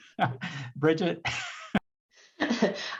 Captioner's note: laughter